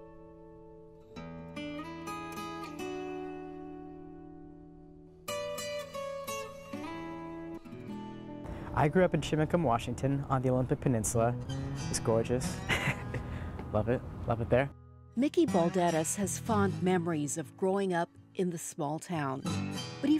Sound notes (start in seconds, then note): 12.6 laughs